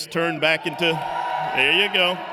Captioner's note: applause